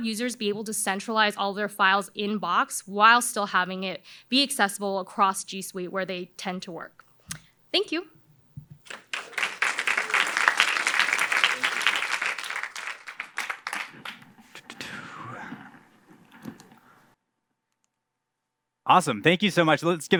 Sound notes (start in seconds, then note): 8.8 applause